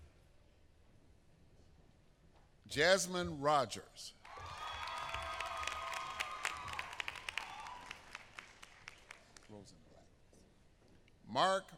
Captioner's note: applause